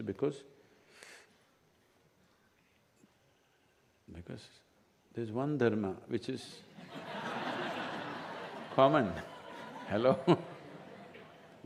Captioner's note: laughter